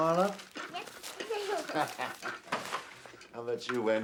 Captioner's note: both laughing